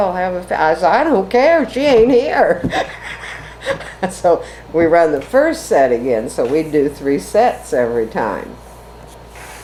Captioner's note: laughs